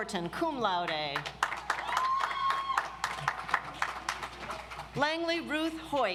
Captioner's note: audience applauds